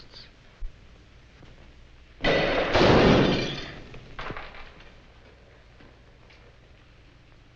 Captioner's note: gunshot bangs; glass shatters